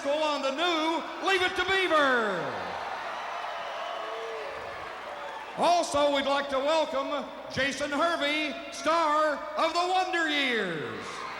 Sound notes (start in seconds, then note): 2.4 crowd applauding; 3.2 crowd cheering; 10.6 crowd cheering; 11.1 crowd applauding